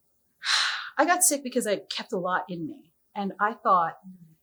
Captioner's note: sighs